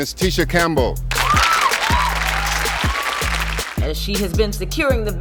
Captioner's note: audience applauding